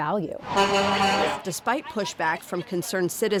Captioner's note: horn honking